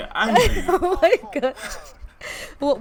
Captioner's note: laughs